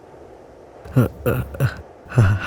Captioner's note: stammer